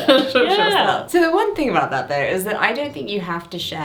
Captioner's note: laughs